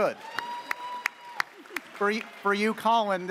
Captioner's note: audience cheers